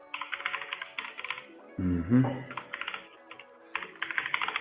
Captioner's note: keys clicking